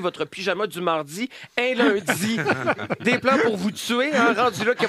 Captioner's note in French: rires